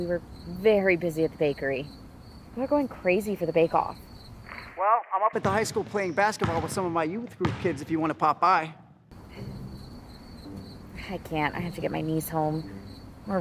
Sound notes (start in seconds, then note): 9.1 insects chirping; 10.4 playful music